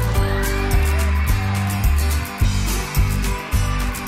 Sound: cheering

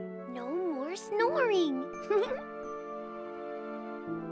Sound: chuckles

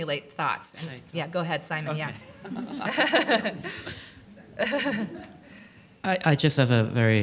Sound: laughing

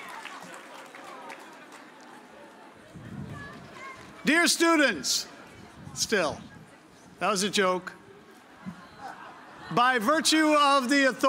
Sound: cheers and applause

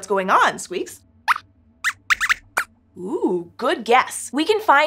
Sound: squeaks squeaks

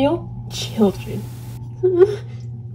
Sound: whimper

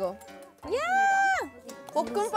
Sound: screaming before eating

